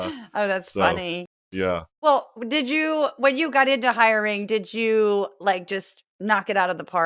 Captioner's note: laugh